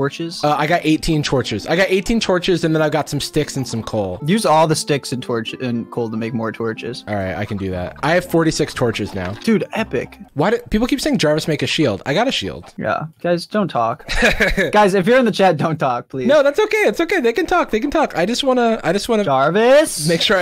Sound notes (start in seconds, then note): 14.0 laughs